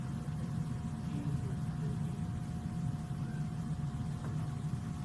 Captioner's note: student speaks faintly